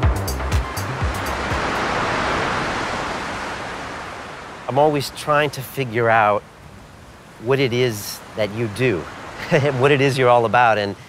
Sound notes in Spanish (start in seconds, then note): 0.8 Ondas de salpicaduras; 9.3 risas